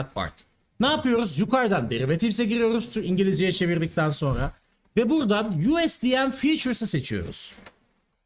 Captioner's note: explaining in Turkish